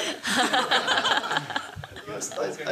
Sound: laughter

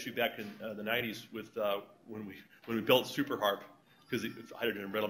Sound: cell Phone Rings

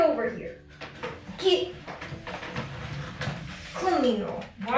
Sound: footsteps clacking

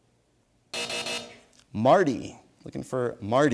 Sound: buzzer sounds

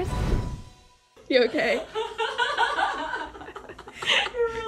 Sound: both laughing

